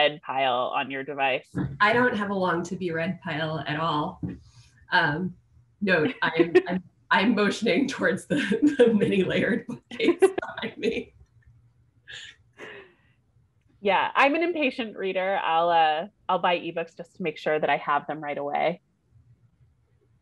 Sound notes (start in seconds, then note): 11.4 laughter